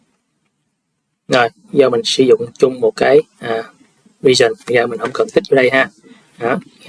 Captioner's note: sniffs